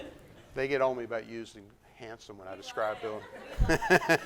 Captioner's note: laughter